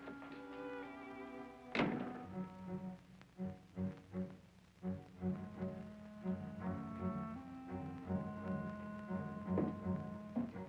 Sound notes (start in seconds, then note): 1.7 door thuds; 5.2 ominous music